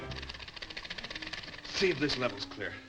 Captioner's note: feet slap; elevator clicks rapidly